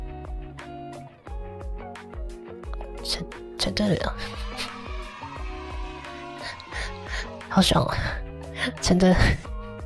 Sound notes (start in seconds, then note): 4.4 hehehehe